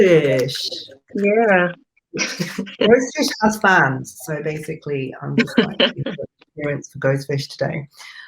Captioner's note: laughs